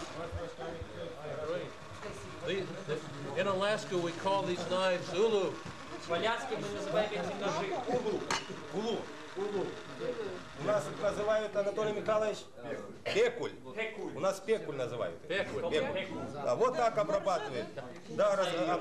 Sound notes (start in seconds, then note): 6.5 russian speech; 10.9 russian speech